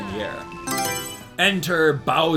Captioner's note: Mario Selection Sound